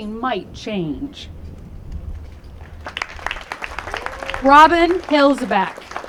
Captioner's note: applause